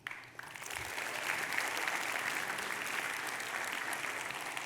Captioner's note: audience clapping